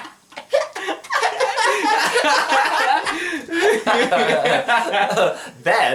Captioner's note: laughing